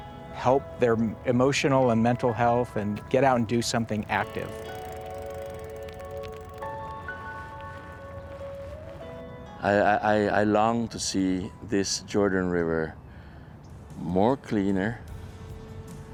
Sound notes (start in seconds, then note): 5.8 bike clicking; 7.6 soft music